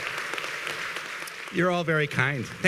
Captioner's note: applause